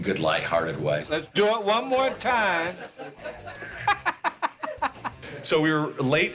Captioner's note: laughs